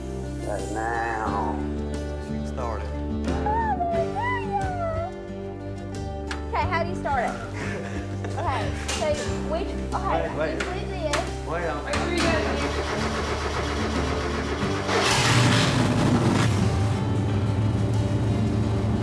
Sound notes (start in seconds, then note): 12.2 engine turning; 14.9 engine starts